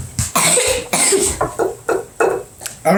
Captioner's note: coughs again